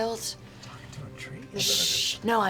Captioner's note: whispering